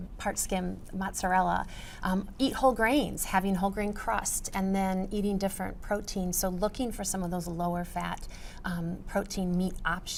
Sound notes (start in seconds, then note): none